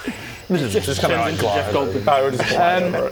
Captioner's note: buzzzzzzzzzzzzzzzzzzzzz